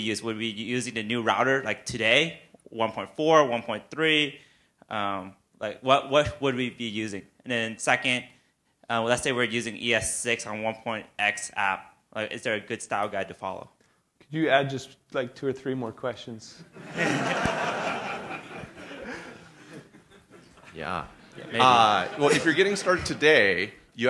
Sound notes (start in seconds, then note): 16.7 laughter